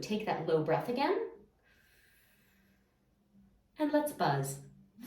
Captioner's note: inhaling